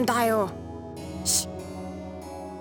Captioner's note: shush